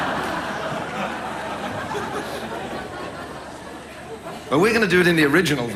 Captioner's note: audience laughs